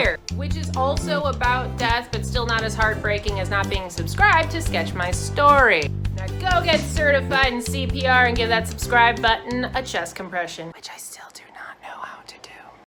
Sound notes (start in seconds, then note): 10.3 whispers